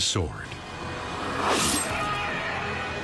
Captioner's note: Medusa screeches; sword slashes